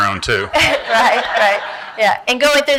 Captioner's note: laughter